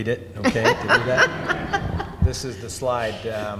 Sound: audience laughs

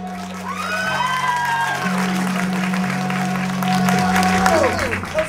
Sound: cheers, applause

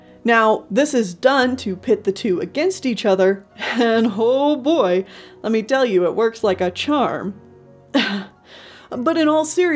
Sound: cough

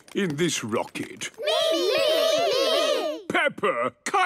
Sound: calling out in turn

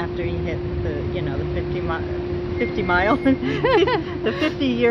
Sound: laughs

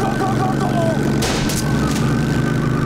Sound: gunshot

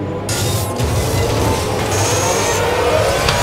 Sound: whirring

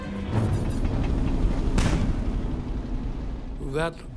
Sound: tank rumbling; cannon shot exploding

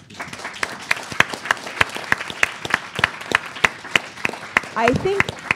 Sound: applause

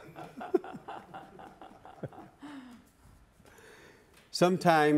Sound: laughter

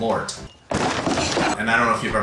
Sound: man's body clatters

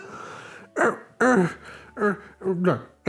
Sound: Growler Groans

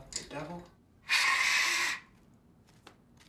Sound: blowing

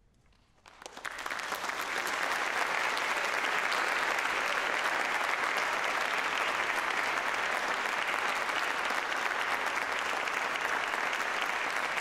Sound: applause

